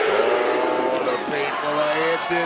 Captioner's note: crowd yells "chase u"